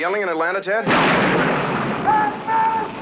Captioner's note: lightning thunders